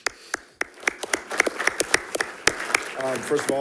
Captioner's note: attendees clapping